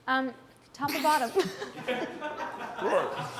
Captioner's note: laughs